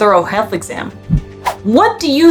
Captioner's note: background music; sound effect